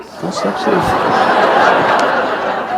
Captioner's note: laughter